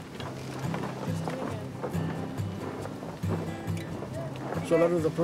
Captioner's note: gentle music; sails rustle